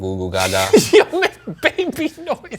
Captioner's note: laughing